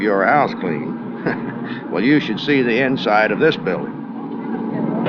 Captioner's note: chuckles